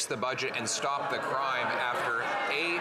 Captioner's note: some Applause